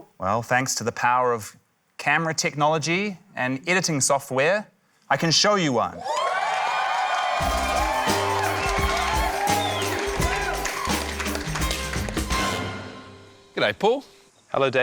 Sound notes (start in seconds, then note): 6.0 cheering, applause; 7.4 quirky music